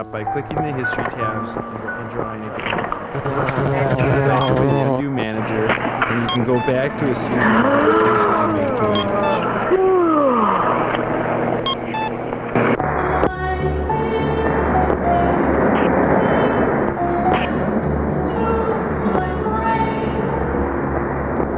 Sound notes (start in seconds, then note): 11.1 yawning